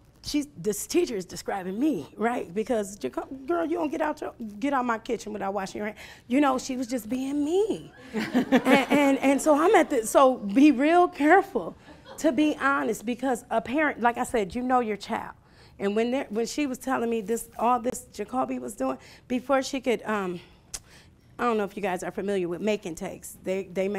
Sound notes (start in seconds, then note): 8.0 laughing